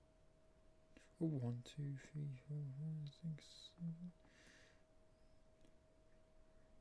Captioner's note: counting up quietly